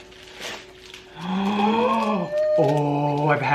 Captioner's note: gasps loudly